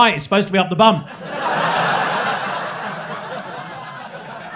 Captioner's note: crowd laughing